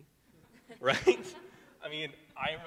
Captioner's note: laughs; attendees laughing